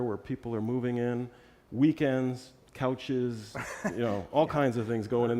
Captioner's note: laugh